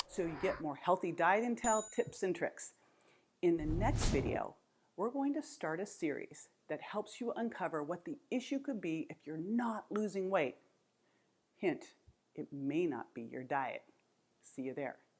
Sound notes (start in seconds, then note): 3.6 graphic whooshes